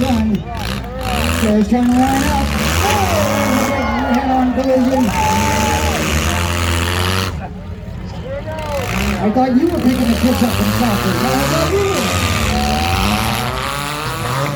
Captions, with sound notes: Sarah's turning around. Sarah's trying to line up. Oh there's a big head on collision! *engines rev* *crowd cheers* I thought you were picking the kids up from soccer! No, I thought you were!